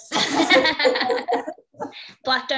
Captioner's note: laughing